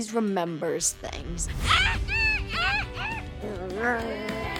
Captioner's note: squawking; crowd cheering